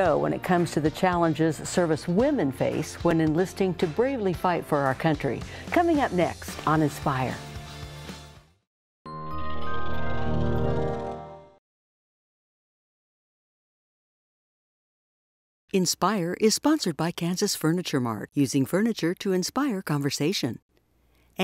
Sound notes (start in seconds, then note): 15.8 voiceover